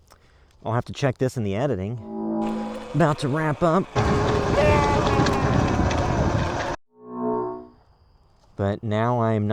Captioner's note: louder version of the distant yelling